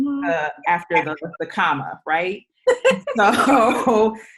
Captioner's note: all laugh